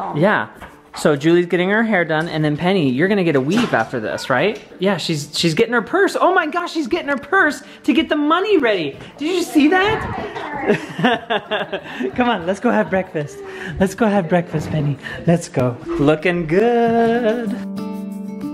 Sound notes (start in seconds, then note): 10.0 laughs